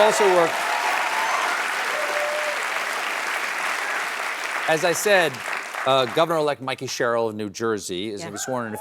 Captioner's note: applause